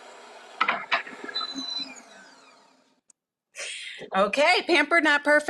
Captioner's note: mixer beeps